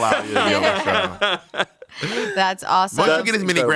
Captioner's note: everyone laughs